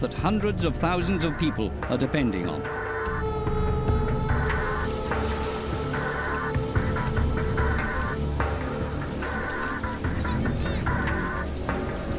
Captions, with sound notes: that hundreds of thousands of people are depending on. -[locusts fluttering] -[eerie techno music]